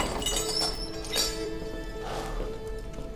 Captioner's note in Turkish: Kilit açma sesi; Kapı açılma sesi; Kapı gıcırdama sesi